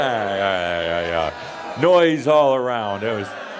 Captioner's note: audience makes a lot of noise; audience continues to make lots of noise